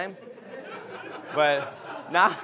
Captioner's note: audience laughs